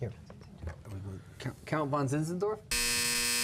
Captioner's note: buzzer